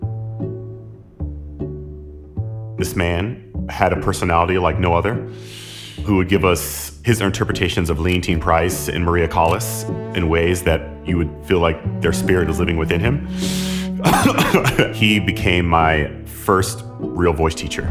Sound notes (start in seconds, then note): 14.0 laughing